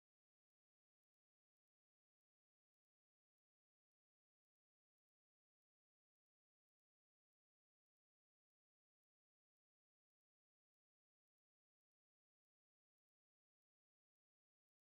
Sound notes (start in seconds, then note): none